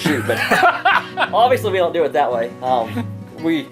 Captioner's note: laughter